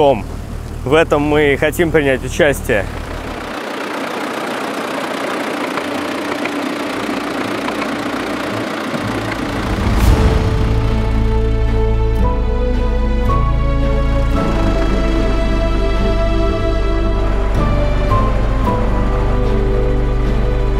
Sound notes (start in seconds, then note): 3.8 tractor engine running